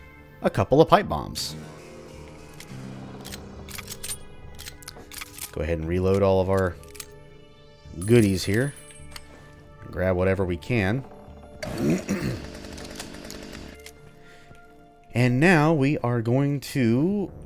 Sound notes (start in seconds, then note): 2.3 riff plays; 11.7 clears throat